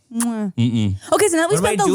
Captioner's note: smooches